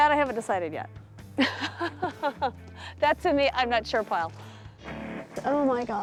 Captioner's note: laughs